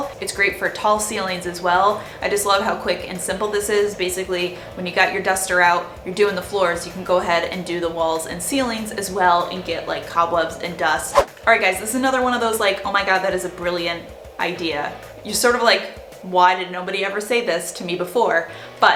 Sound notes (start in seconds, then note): 10.8 whooshing